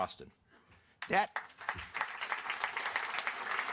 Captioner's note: applause